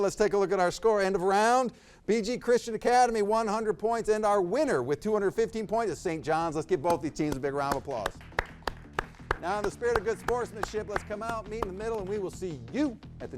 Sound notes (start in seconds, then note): 8.0 audience applauds